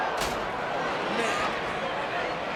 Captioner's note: body thuds